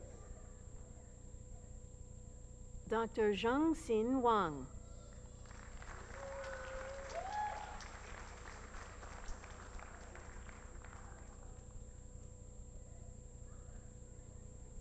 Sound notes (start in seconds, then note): 5.1 applause